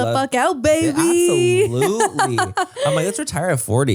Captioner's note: laughs